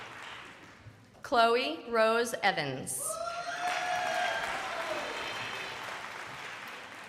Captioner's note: crowd applauding